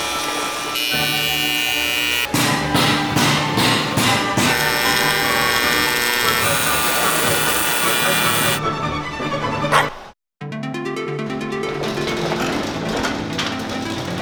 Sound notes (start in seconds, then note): 0.2 classical music; 3.2 power tools buzzing; 10.4 tranquil music